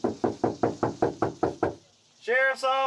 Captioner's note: knocking on door